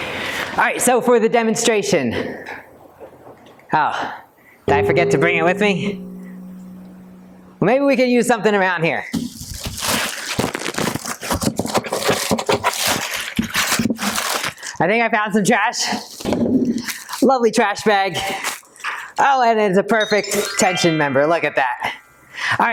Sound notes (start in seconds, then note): 9.2 paper crumpling